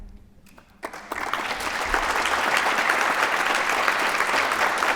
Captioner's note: applause